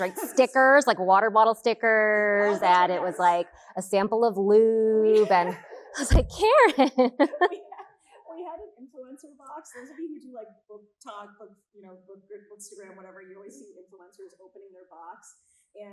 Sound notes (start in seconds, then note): 6.6 chuckles